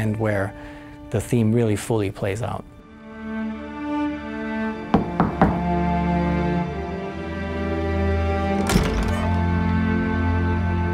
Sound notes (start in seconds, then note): 4.9 knocking; 5.6 intense orchestral music